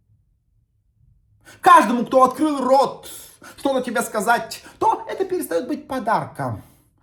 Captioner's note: laughs